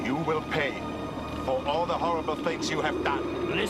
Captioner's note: none